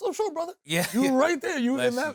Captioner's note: chuckles